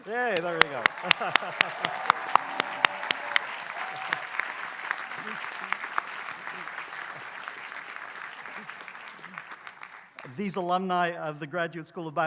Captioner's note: applause